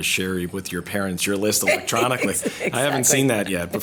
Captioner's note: laughs